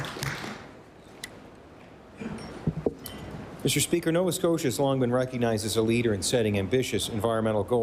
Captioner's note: applause